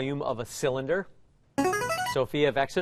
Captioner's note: chiming